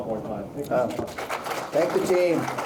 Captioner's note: audience applauding